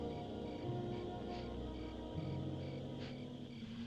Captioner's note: sniffing